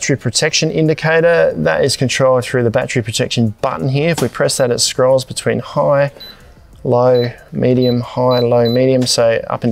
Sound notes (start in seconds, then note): 6.0 beeps